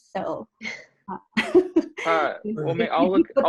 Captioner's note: laughter